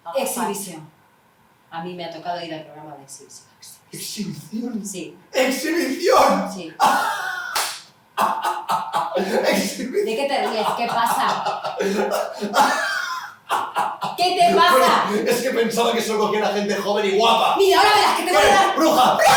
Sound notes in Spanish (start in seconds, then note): 8.4 laughs